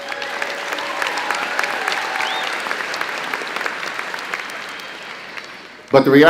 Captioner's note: crowd clapping and cheering